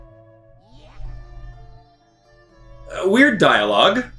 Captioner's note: gaming sounds